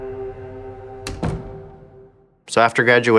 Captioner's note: door slamming shut